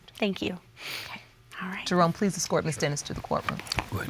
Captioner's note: sniffs